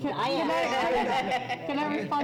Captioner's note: laughter